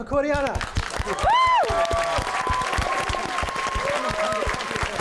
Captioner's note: applause